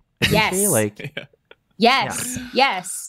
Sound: laughing

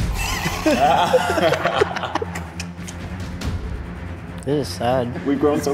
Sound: dramatic orchestral music; group laughing

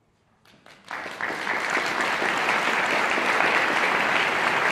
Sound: audience applauding

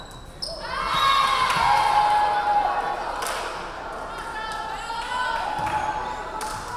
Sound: crowd cheering; referee whistling

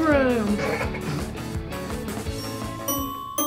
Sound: muffled laughter; inquisitive music

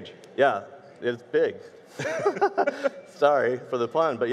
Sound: speakers laughing

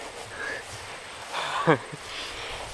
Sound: laughing

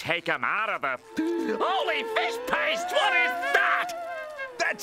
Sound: gasping

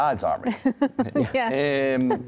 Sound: giggling

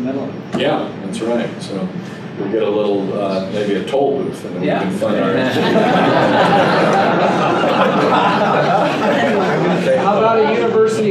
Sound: laughter

